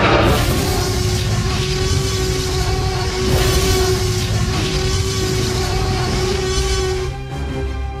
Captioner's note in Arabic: T-Rex يزمجر بصوت عالٍ